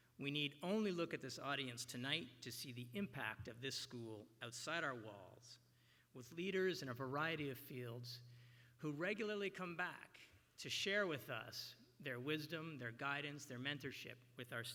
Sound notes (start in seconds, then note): none